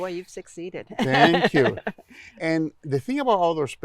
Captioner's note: laughing